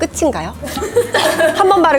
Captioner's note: awkward laughter